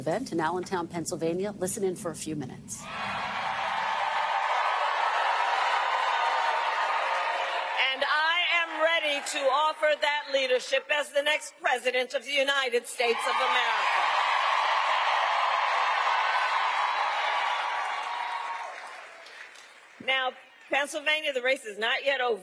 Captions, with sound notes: THANK YOU SO MUCH FOR JOINING US. GOOD LUCK OVER THESE NEXT US. GOOD LUCK OVER THESE NEXT 48 HOURS. WE WANT TO HEAD BACK 48 HOURS. WE WANT TO HEAD BACK TO PENNSYLVANIA AND DIP INTO TO PENNSYLVANIA AND DIP INTO VICE PRESIDENT KAMALA HARRIS‘ VICE PRESIDENT KAMALA HARRIS‘ EVENT IN ALLENTOWN, EVENT IN ALLENTOWN, PENNSYLVANIA. LISTEN IN FOR A PENNSYLVANIA. LISTEN IN FOR A FEW MINUTES. FEW MINUTES. >> [ APPLAUSE ] >> [ APPLAUSE ] >> AND I AM READY TO OFFER THA >> AND I AM READY TO OFFER THA LEADERSHIP AS THE NEXT